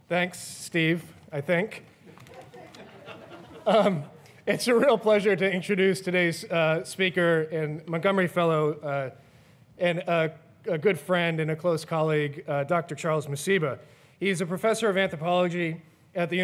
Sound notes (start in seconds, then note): 2.1 audience chuckles